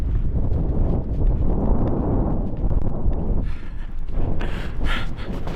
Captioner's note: wind blowing continues